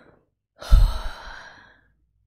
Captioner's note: breathes out